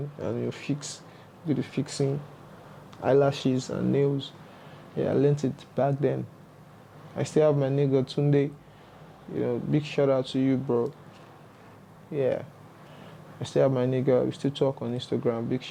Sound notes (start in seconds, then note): none